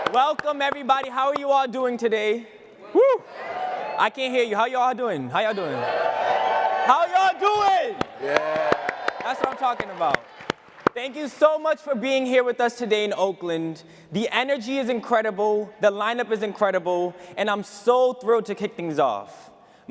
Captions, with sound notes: - Welcome everybody. How are you all doing today? I can't hear you, how are ya'll doing, how ya'll doing? (cheering) How ya'll doing? (applause and cheering) That's what I'm talking about. Thank you so much for being here with us today in Oakland. The energy is incredible, the lineup is incredible, and I'm so thrilled to kick things off.